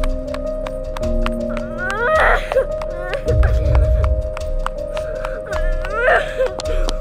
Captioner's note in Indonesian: Suara anak kecil menangis